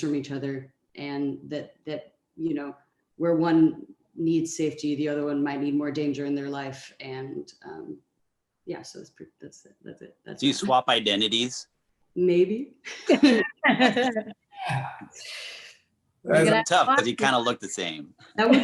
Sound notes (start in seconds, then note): 13.0 all laughing